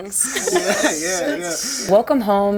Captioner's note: all laughing